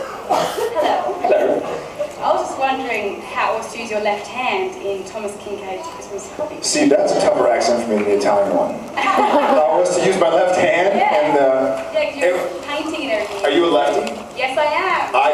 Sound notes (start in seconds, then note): 9.0 laughing; 9.0 laughs